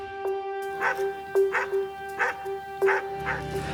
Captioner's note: dog barking